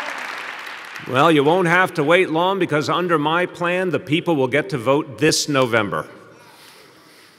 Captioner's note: applause